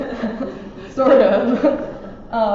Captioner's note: audience laughs